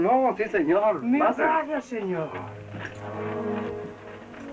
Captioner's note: Spanish spoken audio